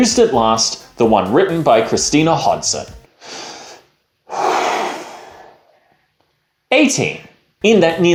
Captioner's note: extremely dramatic breath